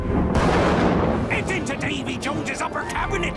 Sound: thunder clap

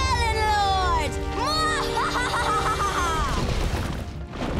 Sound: laughing

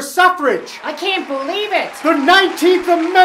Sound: crowd cheering

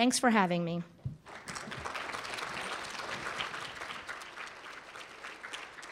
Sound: applause

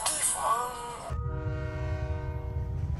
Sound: train HORN

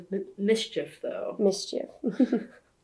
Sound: laughs

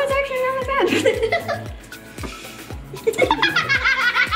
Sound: giggling

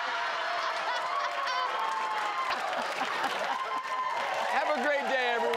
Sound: laughs; audience cheers

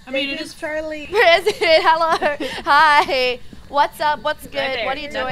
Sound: laugh

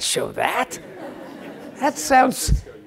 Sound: laugh

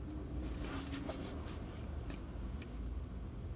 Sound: shuffling

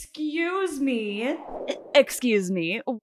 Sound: swoosh

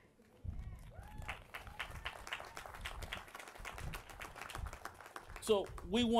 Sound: applause

